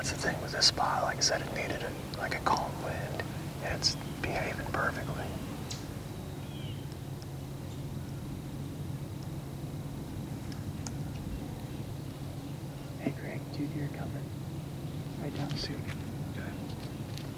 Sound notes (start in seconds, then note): 5.4 birds chirping